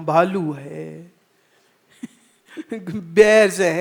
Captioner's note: laughs